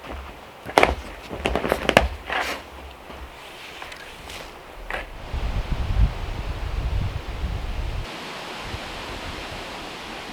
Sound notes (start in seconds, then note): 5.9 leaves rustling